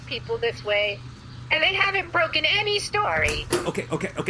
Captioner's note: the door opens, someone enters